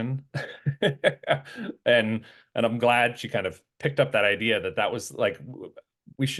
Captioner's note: laugh